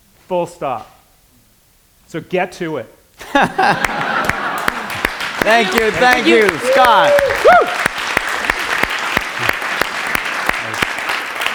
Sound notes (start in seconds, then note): 3.3 laughter and applause; 7.6 applause